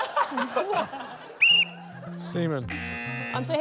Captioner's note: blows whistle; buzz!